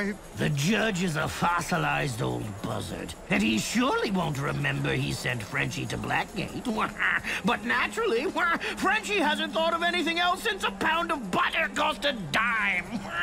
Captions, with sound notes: - The judge is a fossilized old buzzard, and he surely won't remember he sent Frenchy to Blackgate. [quacking laughter] But naturally, Frenchy hasn't thought of anything else since a pound of butter cost a dime.